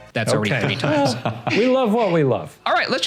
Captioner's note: laughing